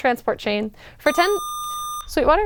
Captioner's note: buzzer